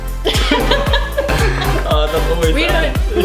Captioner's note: laughter